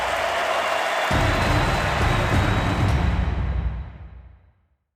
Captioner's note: audience applauding